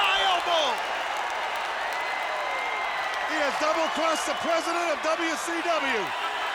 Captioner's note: applause